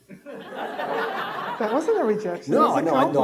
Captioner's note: audience laughing